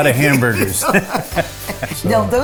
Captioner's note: laughing